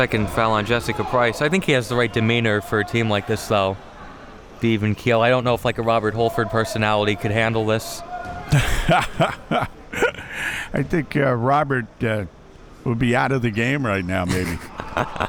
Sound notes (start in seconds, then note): 0.0 spectators shouting; 8.5 laughing